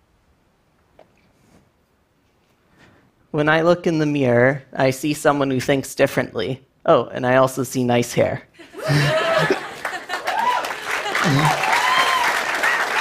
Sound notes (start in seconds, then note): 8.6 laughter; 10.7 applause